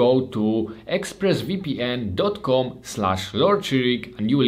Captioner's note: none